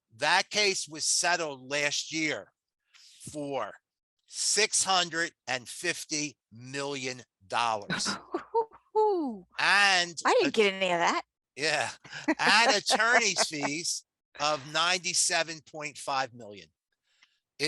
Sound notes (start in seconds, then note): 9.6 laughs; 11.6 laughs